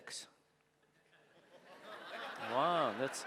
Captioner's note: audience laughing